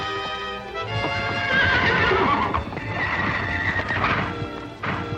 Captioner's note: horses neighing